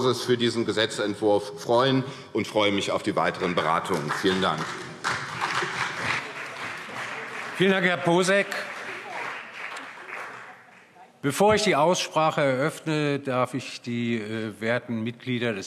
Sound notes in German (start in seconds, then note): 5.2 Beifall CDU und BÜNDNIS 90/DIE GRÜNEN